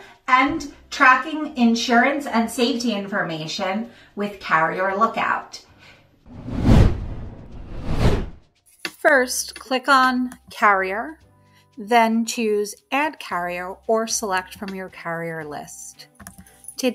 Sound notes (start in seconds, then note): 6.3 screen whooshing